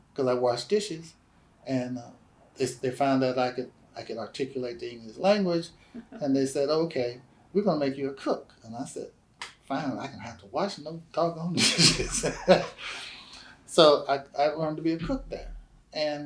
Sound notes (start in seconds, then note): 11.5 laughs